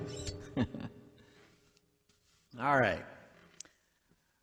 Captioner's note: laughs